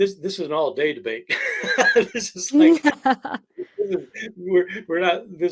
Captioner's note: both laughing